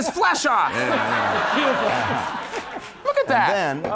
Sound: crowd exclaims

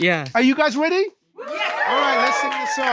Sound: cheering

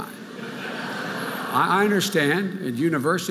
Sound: audience laughing

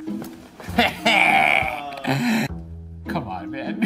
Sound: laughing

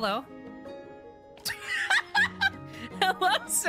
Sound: laughter

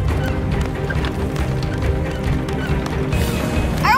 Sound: wheels squeaking

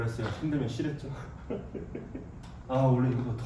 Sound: laughing

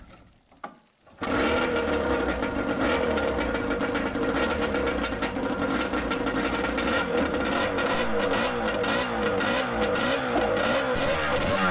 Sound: two-stroke outboard engine with expansion chambers idling and revving

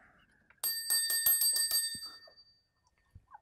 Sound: chime

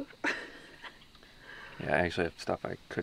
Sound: laughs

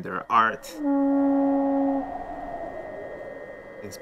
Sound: horn blowing

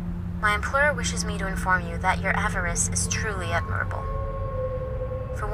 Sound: woman on phone; woman on phone

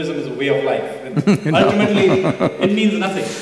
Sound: Sadhguru laughs

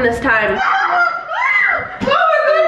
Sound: screaming

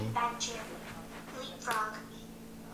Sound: robotic Voice

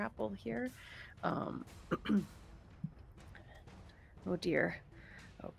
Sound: clears throat

